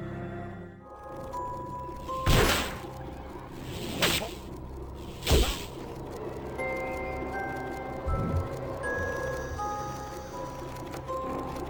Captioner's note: game sounds